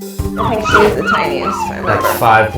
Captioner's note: puppy whining